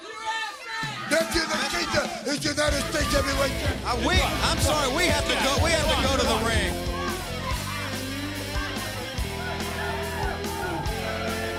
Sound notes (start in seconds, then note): 1.6 crowd chatter